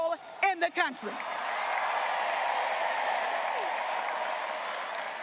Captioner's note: graduates cheering and applauding